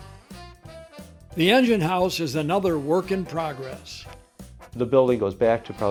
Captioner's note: voiceover